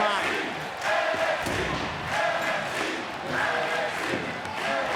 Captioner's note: crowd chanting